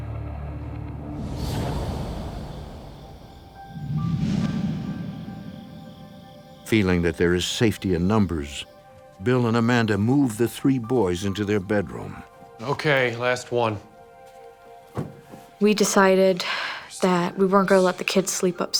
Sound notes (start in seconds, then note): 2.1 insects chirping; 3.6 ominous music